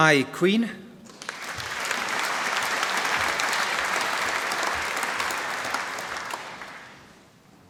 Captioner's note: applause